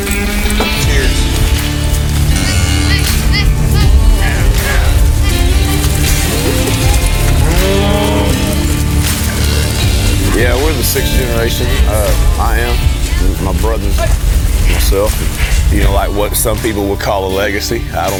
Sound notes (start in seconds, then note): 0.3 country music continues; 5.1 cattle mooing